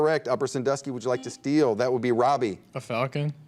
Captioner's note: buzzer dings